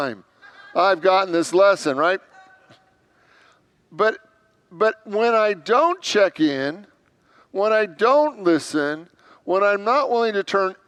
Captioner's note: congregants laugh